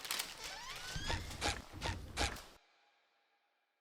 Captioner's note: footsteps squeaking